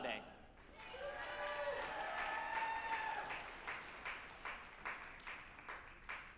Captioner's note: group applauding and cheering